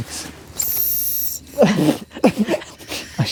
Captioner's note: coughing